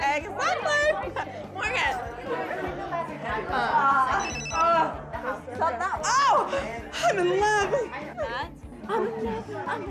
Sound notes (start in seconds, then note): 2.4 people chattering; 4.1 phone ringing